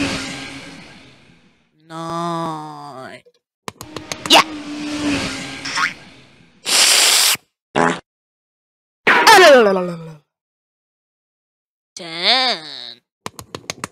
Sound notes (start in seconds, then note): 6.6 slurp; 7.7 fart